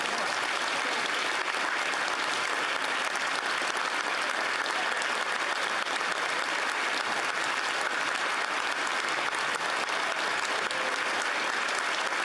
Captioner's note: applause